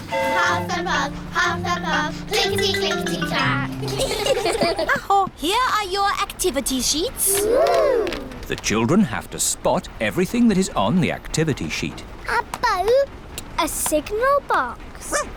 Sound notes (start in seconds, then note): 3.7 all giggle